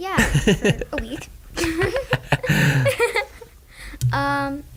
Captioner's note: laugh